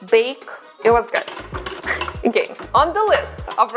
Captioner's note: laughs